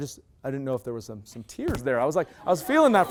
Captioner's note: loud laughter